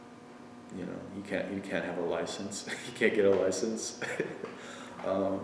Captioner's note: laughs